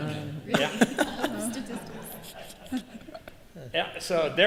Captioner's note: laughter